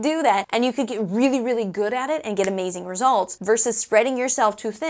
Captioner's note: snap